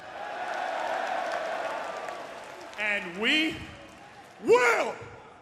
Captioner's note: crowd cheering